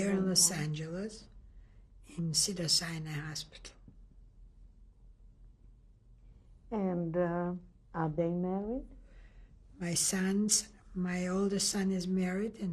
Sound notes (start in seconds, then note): 3.5 pauses for 3 seconds